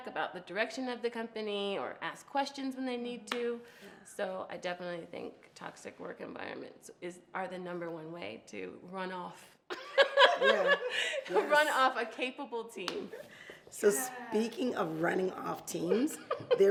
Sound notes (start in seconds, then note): 10.0 laughs